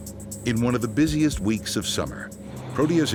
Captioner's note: voiceover